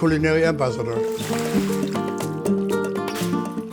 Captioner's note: water splashes